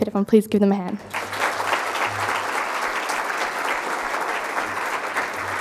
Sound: crowd applauding

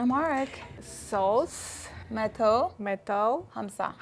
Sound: speaking Amharic

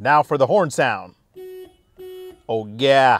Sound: horn beeps

